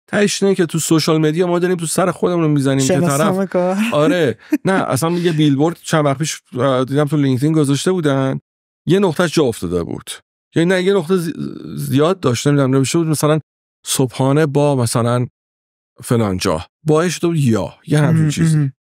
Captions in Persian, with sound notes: ته‌ش اینه که توی سوشیال مدیا ما داریم توی سر خودمون می‌زنیم که طرف... - شناسنامه‌کار. (خنده) - آره. نه. اصلاً یه بیل‌بورد چند وقت پیش دیدم توی لینکدین گذاشته بودن یه نقطه‌ش جا افتاده بود. یعنی نه، یه نقطه زیاد داشت، نمی‌دونم نوشته بود مثلاً صبحانه با مثلاً فلان جا. با شده بود یا، یه همچین چیزی.